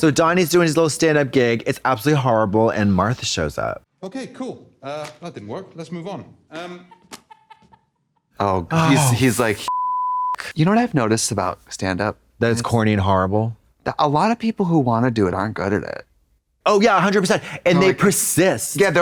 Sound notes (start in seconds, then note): 6.6 laughing; 9.6 beep